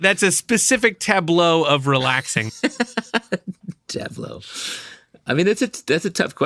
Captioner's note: laughter